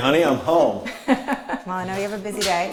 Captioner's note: laughter